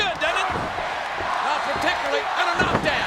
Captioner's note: audience chanting